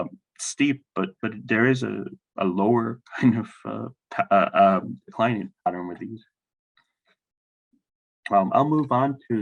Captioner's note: laughs